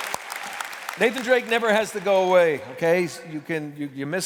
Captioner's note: applause